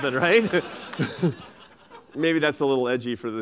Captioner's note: laughter